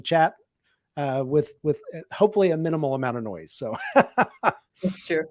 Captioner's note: laughs